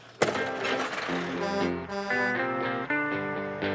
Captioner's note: truck horn honking